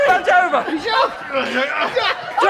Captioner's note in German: grunzt